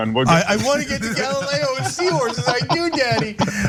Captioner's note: laugh